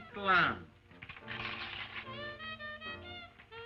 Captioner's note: paper rips